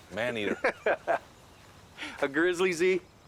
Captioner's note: laughing